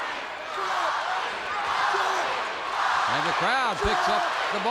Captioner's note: crowd chants "Baldy"